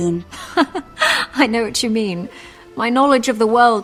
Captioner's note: laugh